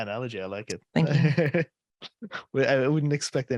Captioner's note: laughter